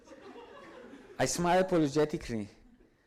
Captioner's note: audience laughs